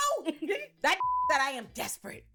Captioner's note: beep